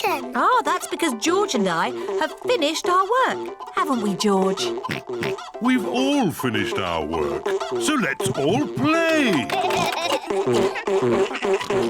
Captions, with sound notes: Ah, that's because George and I have finished our work! -Haven't we, George? -(OINKS) We've all finished our work, so let's all play!